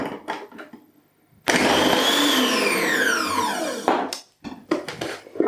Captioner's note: motor whizzing